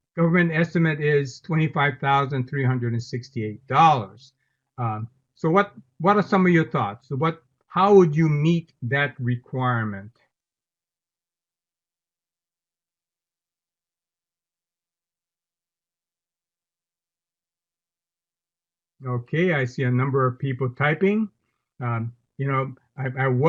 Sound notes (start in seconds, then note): 10.5 silence